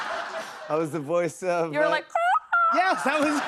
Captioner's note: laughter; squawks; laughs